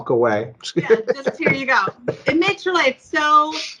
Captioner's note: laughs